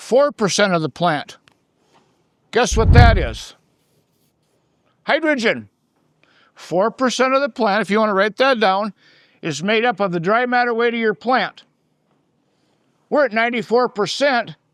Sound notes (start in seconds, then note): none